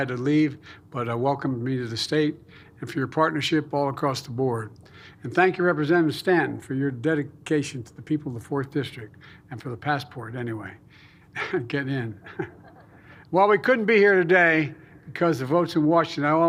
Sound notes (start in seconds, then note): 12.2 laughter; 12.2 laughs